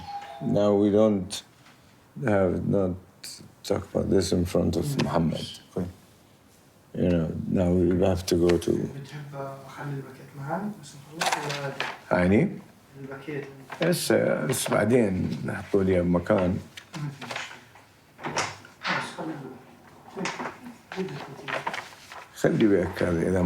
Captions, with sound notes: Now, we don't talk about this in front of Mohamad. Now we have to go to... (speaking in foreign language)